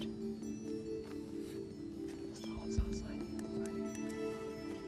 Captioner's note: whispering